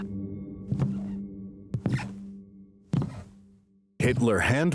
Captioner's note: footsteps thumping